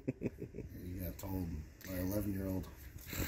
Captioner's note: laughing